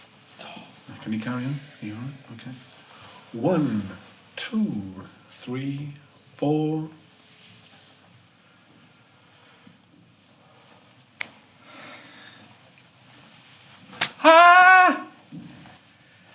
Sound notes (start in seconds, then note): 14.0 argh!!!